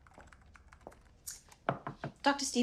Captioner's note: knocking